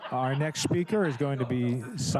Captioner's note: laughter